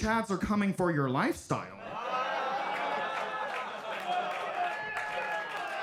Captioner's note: audience applauding